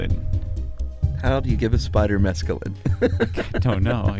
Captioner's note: laughs